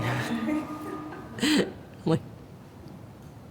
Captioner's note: laughs; laughing